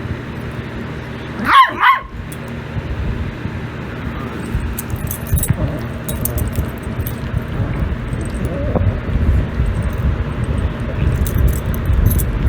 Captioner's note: Ella barks, then growls